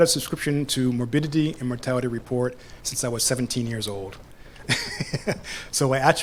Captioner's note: laughs